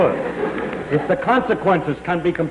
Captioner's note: laughter